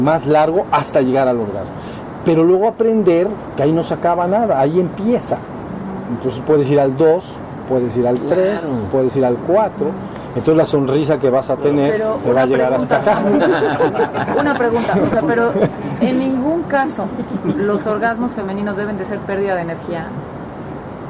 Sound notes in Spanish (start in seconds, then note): 12.7 risas